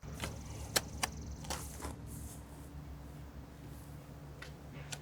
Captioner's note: shovel digging